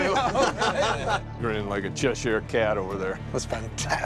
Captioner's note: laughing